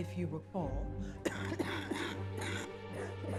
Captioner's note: coughs